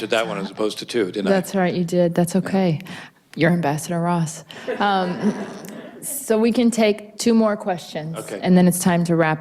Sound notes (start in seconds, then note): 4.6 audience laughs